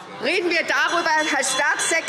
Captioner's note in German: Anhaltende Zurufe – Glockenzeichen